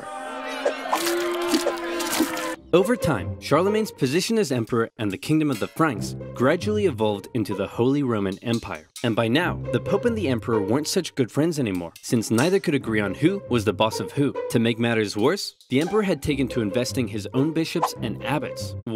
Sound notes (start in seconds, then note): 0.0 crowd jeering; 0.8 vegetables splatting